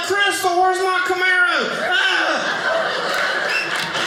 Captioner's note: audience laughing